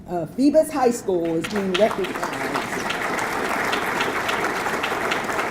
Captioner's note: audience clapping